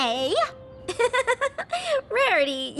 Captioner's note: giggle